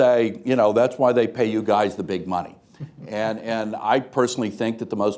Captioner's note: laughter